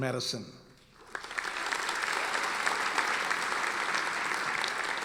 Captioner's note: audience applauding